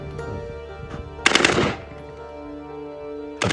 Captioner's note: gunshots